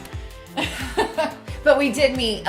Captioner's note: laughs